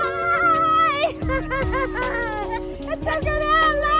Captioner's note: laughing